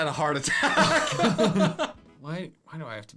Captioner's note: laughing